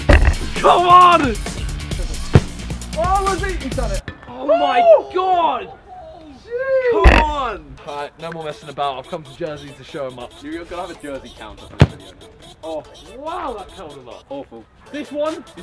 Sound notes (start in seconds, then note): 6.0 cheering